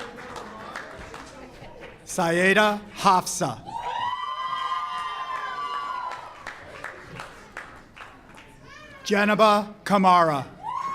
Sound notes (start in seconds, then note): 3.6 audience cheers